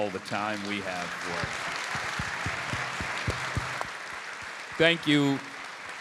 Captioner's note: audience applauding